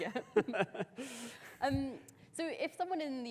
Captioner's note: both laughing